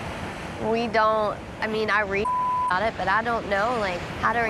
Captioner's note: beeps